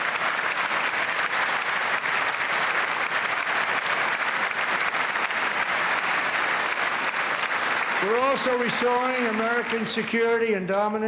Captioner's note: cheers and applause